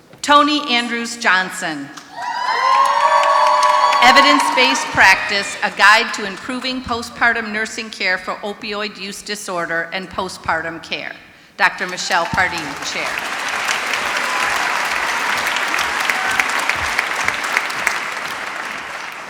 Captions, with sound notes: Tony Andrews Johnson, [screaming] Evidence Based Practice, A Guide To Improving Postpartum Nursing Care for Opioid Use Disorder and Postpartum Care, Dr. Michelle Pardee, Chair. [ Applause ]